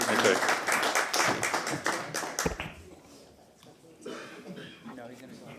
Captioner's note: applause